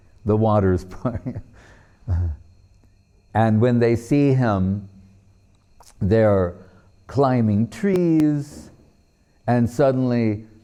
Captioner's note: laughing